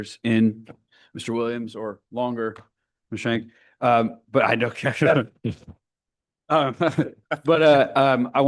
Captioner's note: laughs